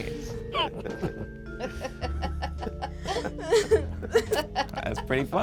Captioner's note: group laughs